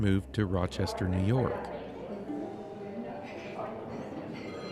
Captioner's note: chatter